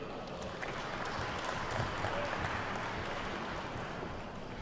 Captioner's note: attendees clapping